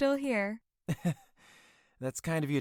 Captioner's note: nervous laugh